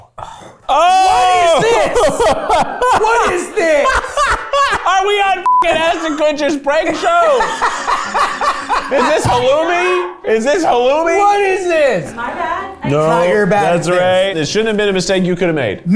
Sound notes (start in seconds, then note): 0.6 laughs; 5.4 beep; 6.7 laughs